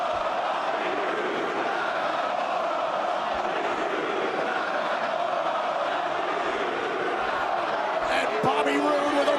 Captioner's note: crowd cheering